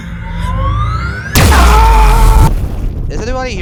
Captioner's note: screams of pain